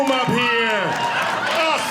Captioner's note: audience clapping